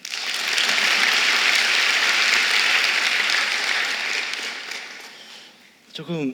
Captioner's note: applause